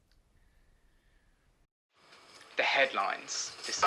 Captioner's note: radio plays